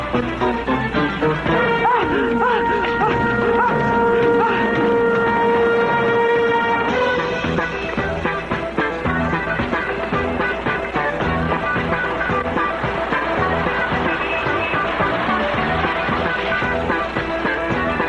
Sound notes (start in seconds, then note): 1.2 screaming